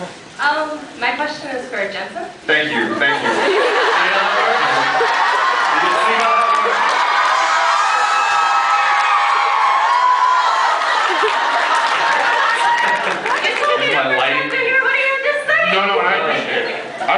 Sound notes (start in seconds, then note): 2.8 laughs; 6.6 laughs, cheers; 7.1 cheers; 12.7 laughs